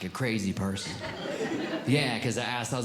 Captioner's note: audience Laughing